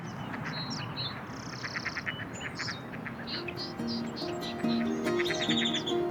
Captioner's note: ducks quacking